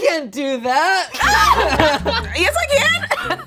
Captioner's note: group laughing; chuckles